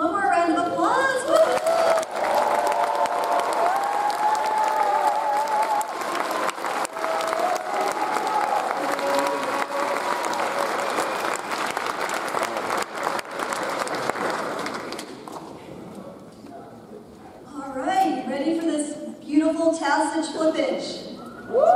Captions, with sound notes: One more round of applause. (audience cheers) (audience applauds) All right, ready for this beautiful tassel flippage?